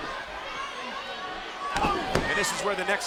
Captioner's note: crowd yelling; wrestler grunting